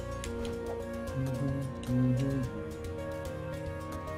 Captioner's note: humming along